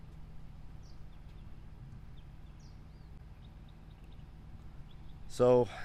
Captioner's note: birds chirping distantly